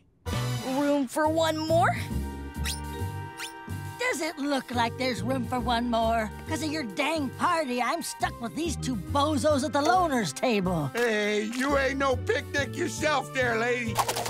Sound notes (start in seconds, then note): none